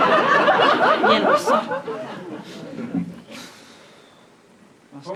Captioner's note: audience laughs; sighs